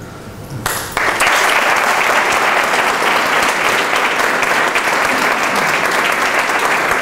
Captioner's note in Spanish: aplausos